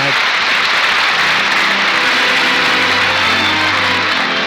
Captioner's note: applause